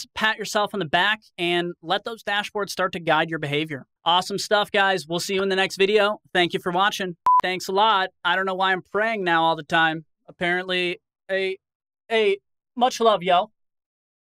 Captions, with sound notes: pat yourself on the back, and let those dashboards start to guide your behavior. Awesome stuff, guys. Will see you in the next video, thank you for watching. (beep) Thanks a lot. I don't know why I'm praying now all the time. Apparently a much love y'all.